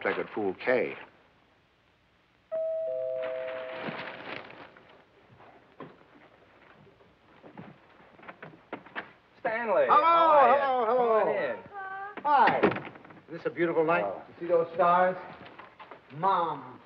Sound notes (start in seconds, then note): 2.5 doorbell